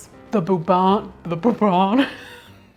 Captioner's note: laughs